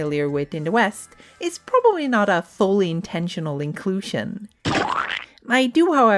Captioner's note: splat noise